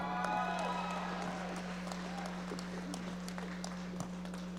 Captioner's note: audience applauding